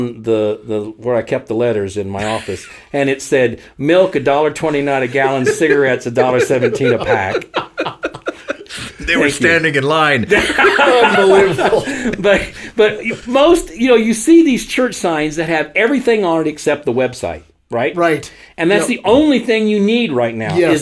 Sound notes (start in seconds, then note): 8.3 both laugh; 10.3 all laugh